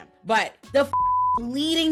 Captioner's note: beep